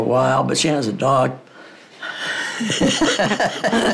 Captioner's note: laugh